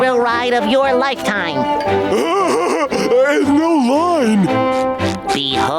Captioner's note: laughing